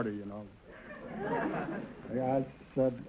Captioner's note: audience laughter